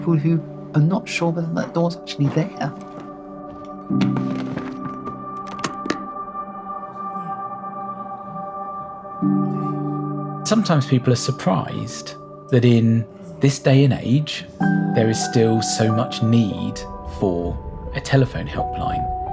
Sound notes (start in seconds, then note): 4.1 suitcase rustling; 5.7 suitcase clacking